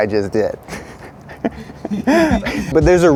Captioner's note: laughs